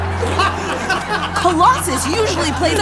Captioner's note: players laughing